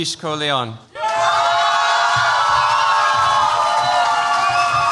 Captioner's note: cheers, applause